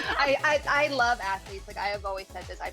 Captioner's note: laugh